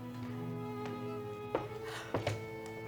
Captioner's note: gasps